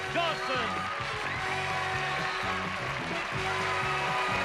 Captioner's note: cheering and applause